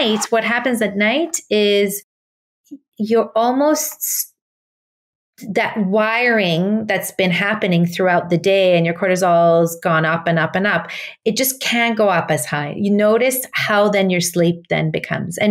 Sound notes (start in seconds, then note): none